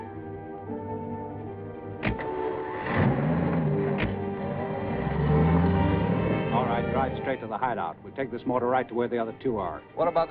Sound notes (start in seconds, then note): 2.1 truck whirring